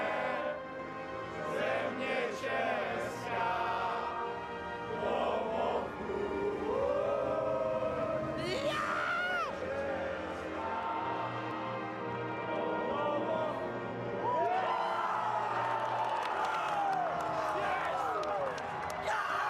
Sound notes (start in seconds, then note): 7.5 horn; 8.4 cheering